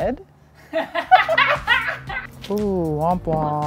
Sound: laughs

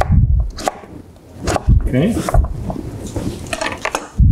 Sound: knife cutting

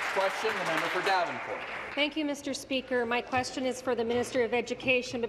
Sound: some Applause

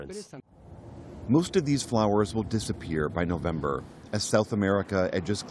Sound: voice-over

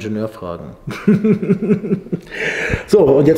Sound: laughter

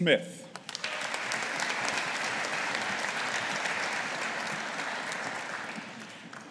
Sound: audience applauding

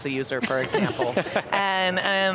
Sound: everyone laughing

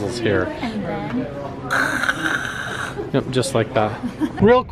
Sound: throaty fizzing

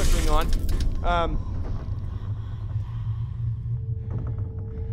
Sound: whispering Female Voice

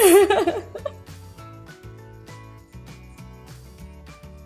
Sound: laughing

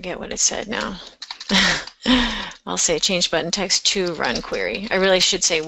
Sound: laughs

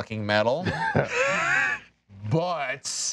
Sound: laughing

